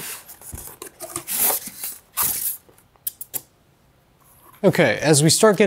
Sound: styrofoam squeaks

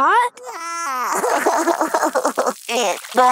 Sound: cries

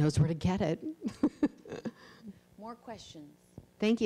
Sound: laughs

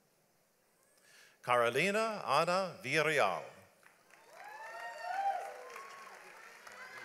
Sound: audience applauds

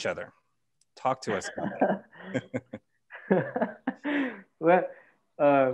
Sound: laughter

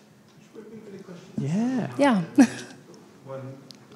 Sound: laughs

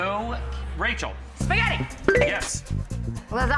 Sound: bell chimes

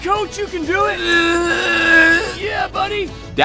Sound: groaning loudly

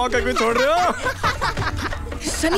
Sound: laughs

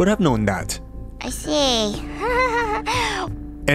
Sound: nervous Chuckle

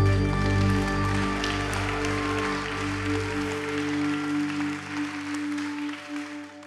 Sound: audience applauding; audience cheering

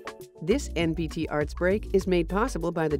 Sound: voiceover

